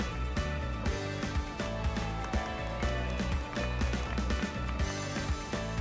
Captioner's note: applause